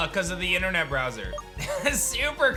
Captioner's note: giggles